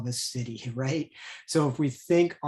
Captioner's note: chuckles